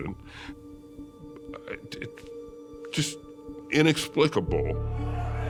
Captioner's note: stammers; people shouting